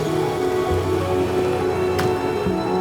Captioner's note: horns honking